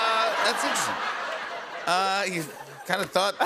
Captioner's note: laughter